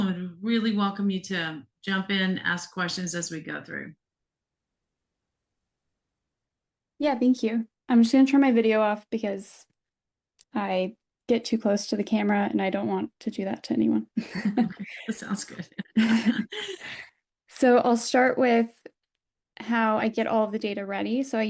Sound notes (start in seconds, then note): 14.2 laughter